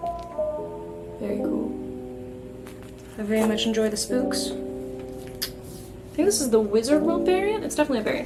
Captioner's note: tongue click